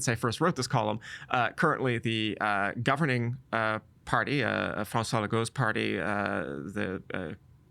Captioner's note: none